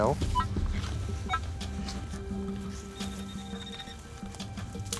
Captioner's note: beeping and ringing